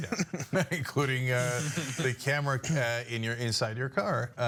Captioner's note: laugh